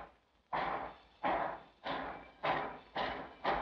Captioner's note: train chugs